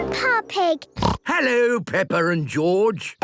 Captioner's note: snorts